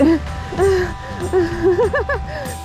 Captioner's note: giggling